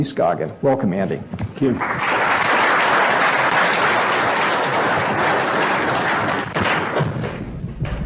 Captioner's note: applause